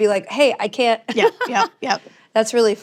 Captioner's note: laughs